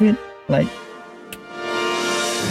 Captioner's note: snaps finger